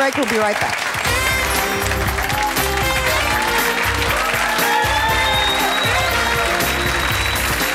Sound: audience clapping; upbeat music

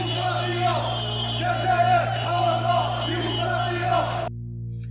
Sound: crowd Chanting

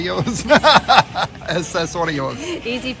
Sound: laughing

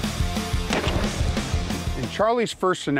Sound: dramatic music continues to play; gun shot

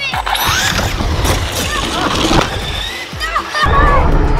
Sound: car whirs; laughs

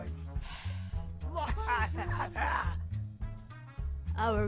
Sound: REALLY Weird, Strangled Evil Laugh

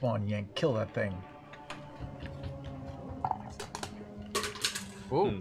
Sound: plastic platform clatters

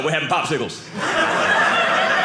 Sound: audience laughing

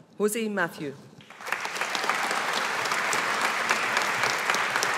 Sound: audience applauding

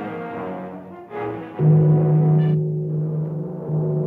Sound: bell chiming

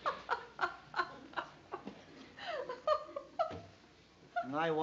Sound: chuckling

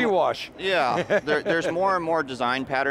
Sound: laughs

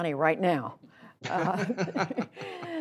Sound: laughter

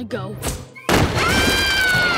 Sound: screaming

